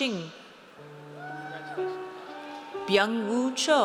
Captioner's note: audience cheers